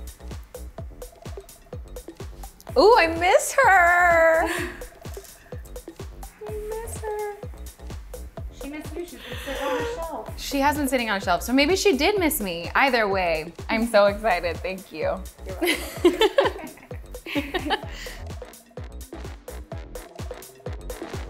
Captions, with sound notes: - Ooh, I miss her! I miss her. - She missed you. She's been sitting on a shelf. - She has been sitting on a shelf, so maybe she did miss me. Either way, I'm so excited. Thank you. - You're welcome. (both laughing) (upbeat music continues)